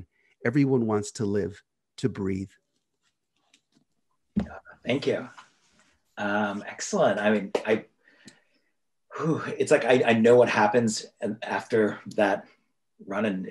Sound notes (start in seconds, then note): 7.8 claps